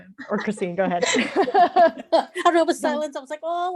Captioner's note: laughter